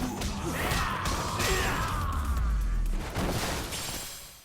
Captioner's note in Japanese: 叫び声